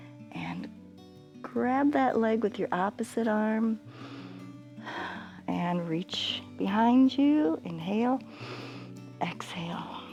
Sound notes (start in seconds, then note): 3.9 inhales and exhales; 8.3 inhales